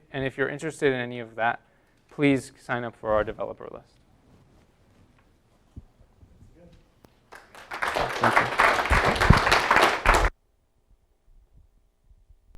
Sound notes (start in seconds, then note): 7.3 applause